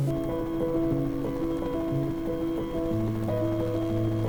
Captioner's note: helicopter whirring